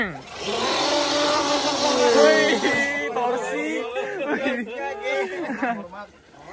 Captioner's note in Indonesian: mobil menggerung